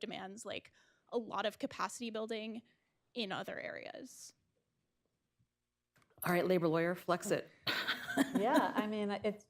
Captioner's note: laughs